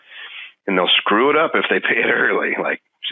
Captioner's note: laughing